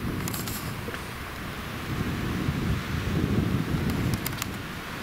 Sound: wind blows against microphone

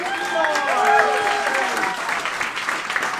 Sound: cheering; applauding

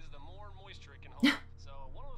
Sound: chuckle

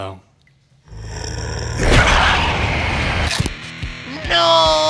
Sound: hydra growling

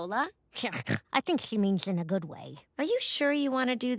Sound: snorts

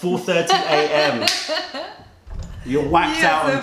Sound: laughter

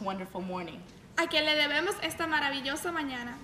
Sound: speaking in spanish

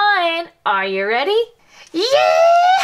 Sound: imitates Jessie's voice

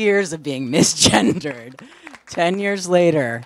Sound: applause

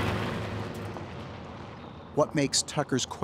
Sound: truck driving

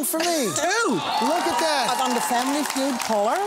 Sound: cheering and applause

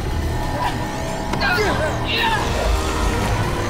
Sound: groaning

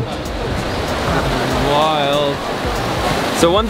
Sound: water rushes

